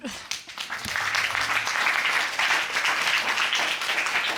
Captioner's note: applause